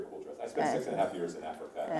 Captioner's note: laughter